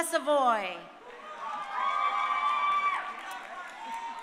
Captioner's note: crowd cheering